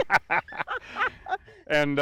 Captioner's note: laugh